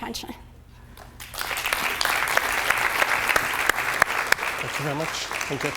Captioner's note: applause